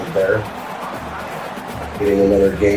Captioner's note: crowd Noises